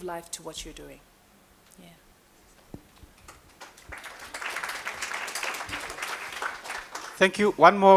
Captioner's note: applause